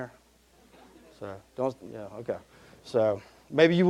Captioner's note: audience laughing